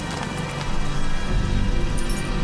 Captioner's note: shoes clinking